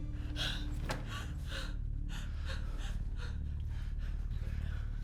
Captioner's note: person breathing